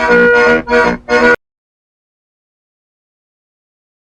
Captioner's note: silence again